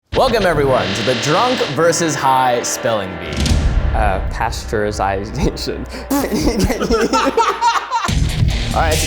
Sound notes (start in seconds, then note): 6.0 all laughing; 8.0 upbeat music